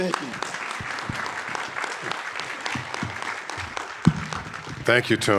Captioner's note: audience applauding